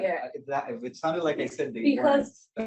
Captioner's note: overlapping chatter